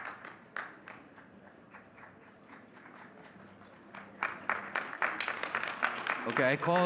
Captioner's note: audience cheering and clapping